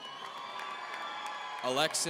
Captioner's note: audience cheering